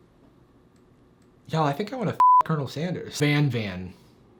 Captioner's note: beep